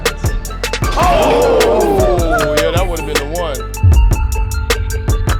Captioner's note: jeering; upbeat music